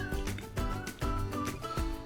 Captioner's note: slap